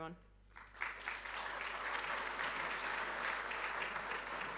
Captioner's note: audience applauding